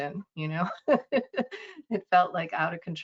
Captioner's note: laughing